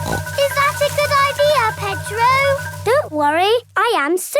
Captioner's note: snorts